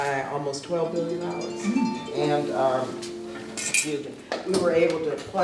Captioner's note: ringing